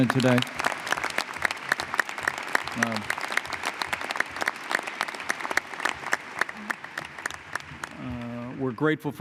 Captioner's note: applause